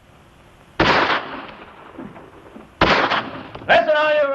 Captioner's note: gunfire